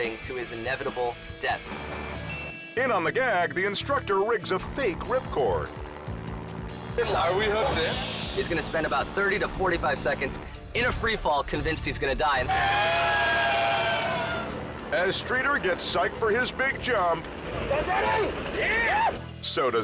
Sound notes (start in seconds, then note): 1.8 upbeat music; 2.3 bell dings